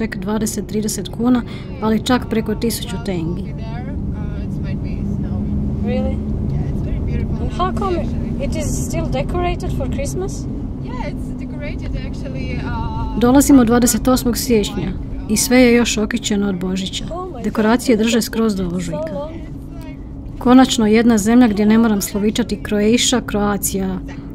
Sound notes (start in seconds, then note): 4.4 indistinct chatter